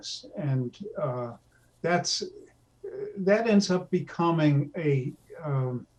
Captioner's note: stammering